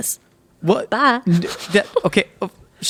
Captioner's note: laughing